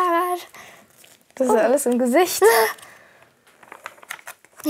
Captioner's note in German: Lachen